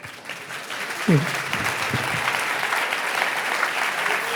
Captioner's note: audience laughing; audience applauding